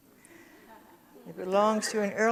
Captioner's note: audience chuckles